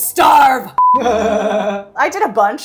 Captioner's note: beep; laughs